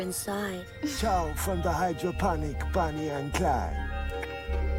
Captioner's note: clicks tongue